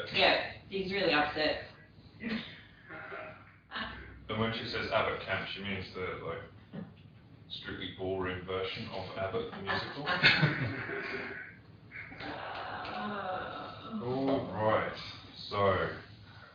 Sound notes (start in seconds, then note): 1.8 laughter; 9.4 laughter